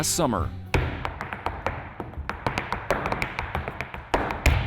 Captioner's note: shoes tapping